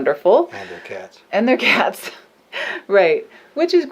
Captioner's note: laughs